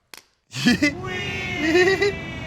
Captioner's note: laughs